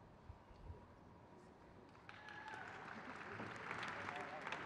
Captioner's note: crowd cheers